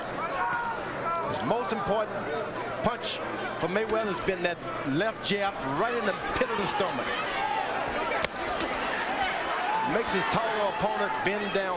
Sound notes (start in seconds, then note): none